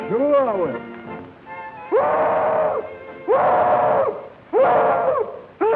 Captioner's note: hollering